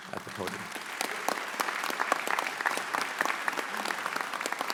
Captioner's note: audience applauds